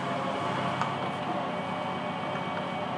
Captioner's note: loud whirring